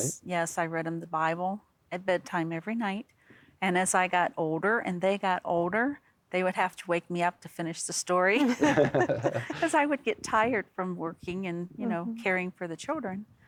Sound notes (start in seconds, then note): 8.4 laughter